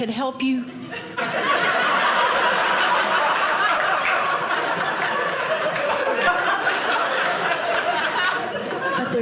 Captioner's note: audience laughing